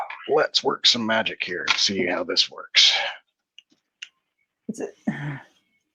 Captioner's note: laughs